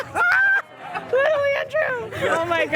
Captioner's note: laughter